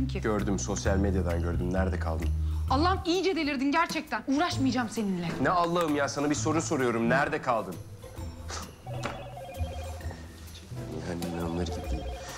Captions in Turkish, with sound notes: Gördüm, sosyal medyadan gördüm. Nerede kaldın? Allah'ım iyice delirdin gerçekten, uğraşmayacağım seninle. Ne Allah'ım ya? Sana bir soru soruyum. Nerede kaldın? (Telefon zili sesi) Yani inanılır gibi değil.